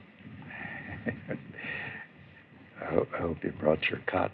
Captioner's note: chuckles